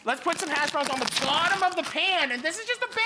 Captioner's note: none